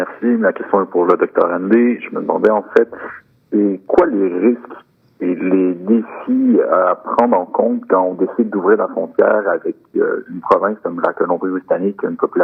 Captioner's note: speaking French